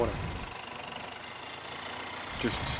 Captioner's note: tractor motor rumbling